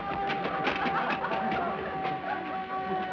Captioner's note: crowd Laughing